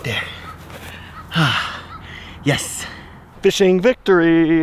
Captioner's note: exhales